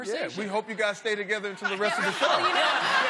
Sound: laughter

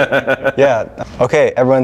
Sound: laughing

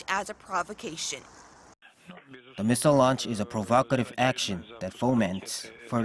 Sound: russian

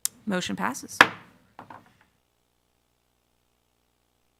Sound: gavel thwacks

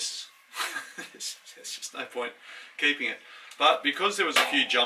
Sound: chuckles

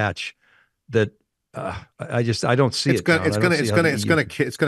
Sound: groans

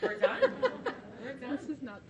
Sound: laughing

